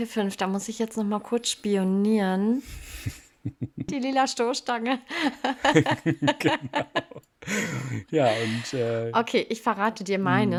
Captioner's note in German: gelächter; japst